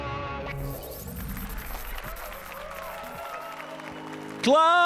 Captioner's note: applause and cheers